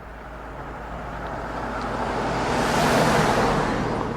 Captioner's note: traffic roaring